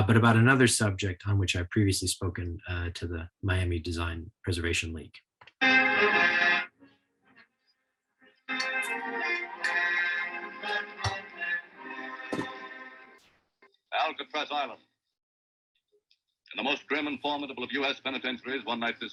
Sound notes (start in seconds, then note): 5.9 lively music; 8.4 lively music continuing; 8.4 audio distorting